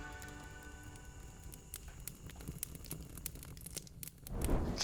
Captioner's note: fire crackling